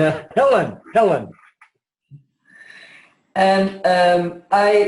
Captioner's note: laughs